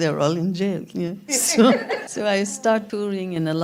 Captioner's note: laughter